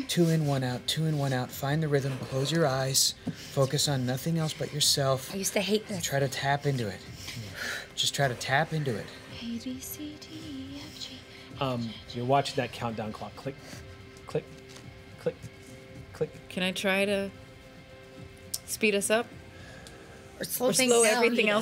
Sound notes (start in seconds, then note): none